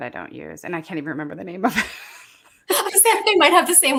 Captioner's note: laughs